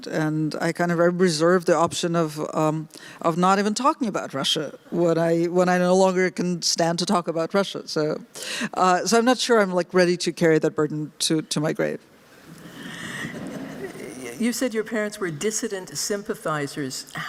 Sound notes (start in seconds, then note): 13.0 laughter